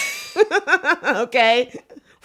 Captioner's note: both giggle